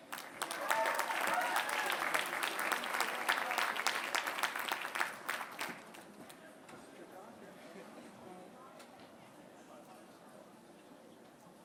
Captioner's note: applause